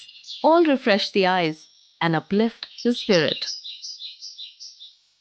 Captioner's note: birds chirping; soothing music